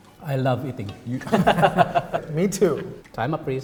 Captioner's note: laughs